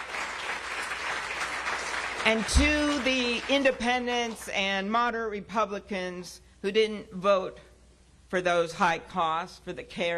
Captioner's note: cheers and applause